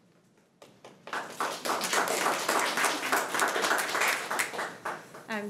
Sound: crowd clapping

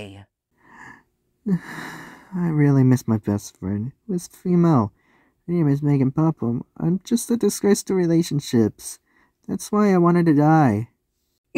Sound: sad Sigh

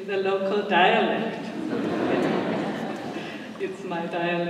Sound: laughter

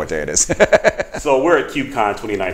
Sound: laughs

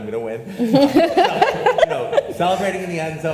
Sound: panelists laugh

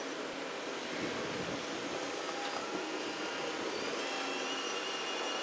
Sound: train tracks roar

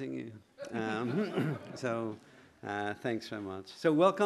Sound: laughter

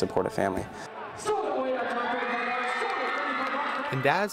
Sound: crowd cheering

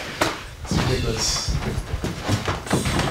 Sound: footsteps

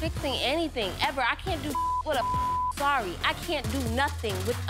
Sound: beep

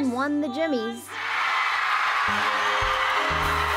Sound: cheering

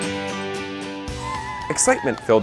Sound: people cheering

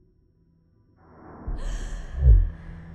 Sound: gasps

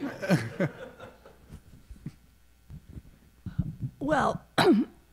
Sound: audience laughing

